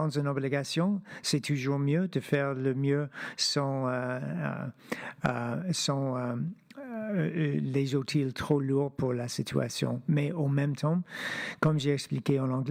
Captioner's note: speaking French